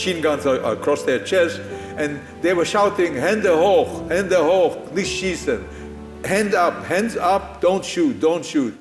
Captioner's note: in German